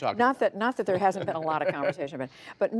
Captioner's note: laughter